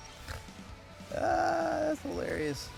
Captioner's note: laugh